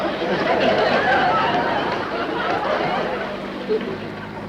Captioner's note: audience laughter